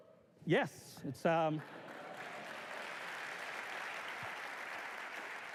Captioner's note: applause